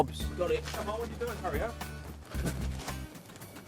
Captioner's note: grunts